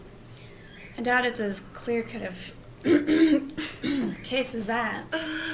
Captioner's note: clears throat